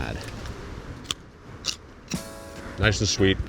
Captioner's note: carrot crunching